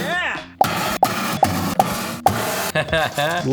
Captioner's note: metal box clangs; laughs